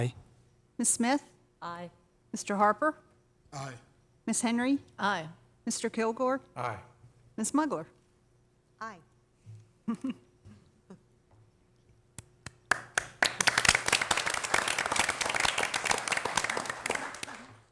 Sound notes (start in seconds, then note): 3.7 applause